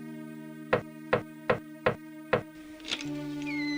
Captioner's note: door knocks